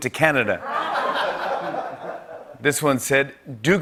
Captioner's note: laughter